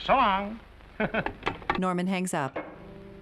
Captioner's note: Artie chuckling